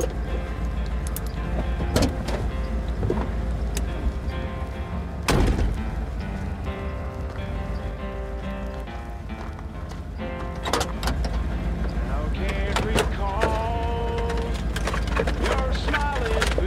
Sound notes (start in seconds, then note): 1.4 door opens, music continues; 5.2 door slams; 9.8 door opens; 12.4 glove compartment opens, rustling around